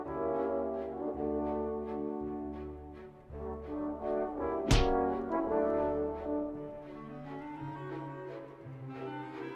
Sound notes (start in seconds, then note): 4.7 hit lands